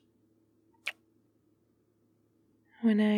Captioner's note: kiss